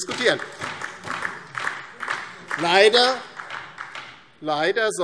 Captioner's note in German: Beifall DIE LINKE